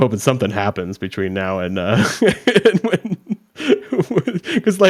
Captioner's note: laughs